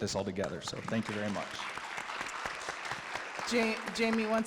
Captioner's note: all applaud